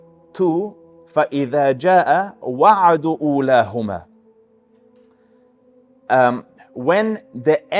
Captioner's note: Arabic